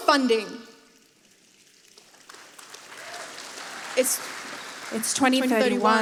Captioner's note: applause